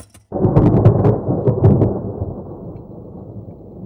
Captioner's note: thunder roaring